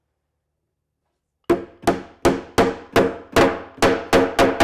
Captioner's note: mallet thudding